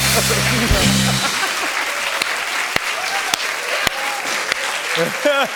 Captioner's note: cheers and applause